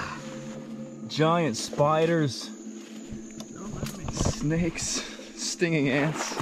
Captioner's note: laughs